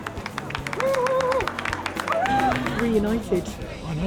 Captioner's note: cheering